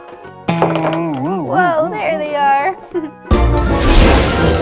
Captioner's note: loud twang; playful music